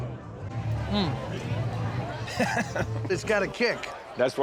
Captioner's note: laughs